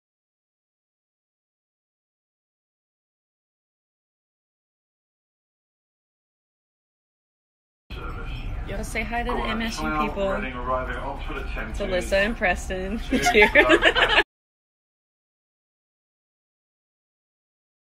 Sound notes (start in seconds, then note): 10.5 male conductor announces through speakers; 12.8 mumbles; 13.0 women laugh